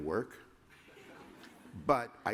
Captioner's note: laughter